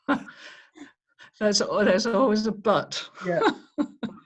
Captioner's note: laughs